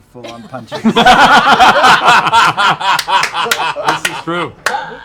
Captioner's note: laughter